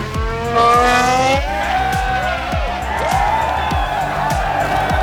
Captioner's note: crowd cheering